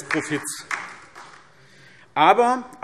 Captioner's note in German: Beifall SPD und DIE LINKE